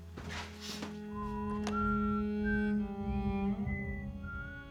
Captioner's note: whistling